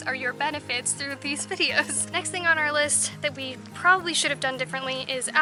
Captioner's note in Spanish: Risas